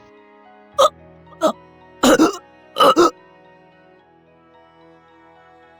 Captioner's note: coughing